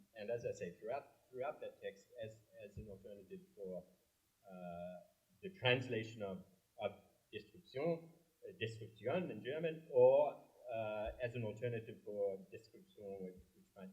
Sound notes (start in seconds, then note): 7.2 german; 12.4 french